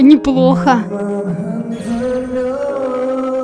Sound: heart-touching voice

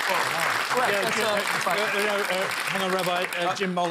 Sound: applause

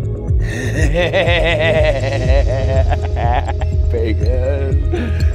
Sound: laughing

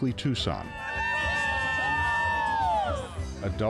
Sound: screaming

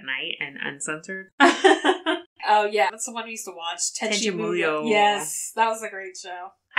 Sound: laughs

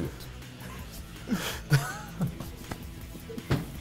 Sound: both laugh

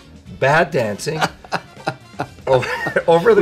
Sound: laughing

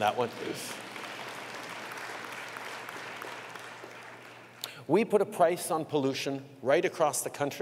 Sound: applause

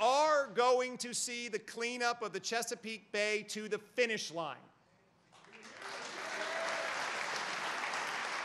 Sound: applause

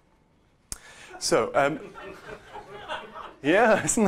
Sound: laughter

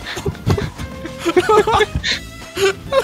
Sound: endless laughs

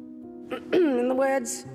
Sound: Queen clearing throat

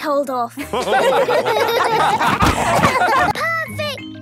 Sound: all laughing

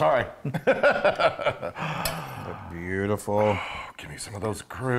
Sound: laugh

